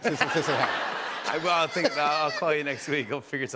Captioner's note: laughter